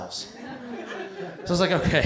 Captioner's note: laughter